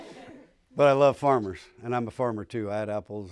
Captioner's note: laughter